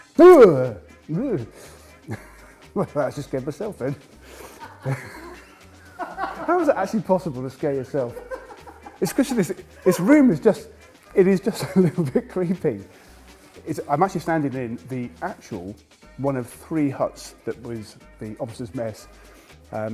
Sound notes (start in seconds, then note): 2.0 laughs; 4.8 crew laughing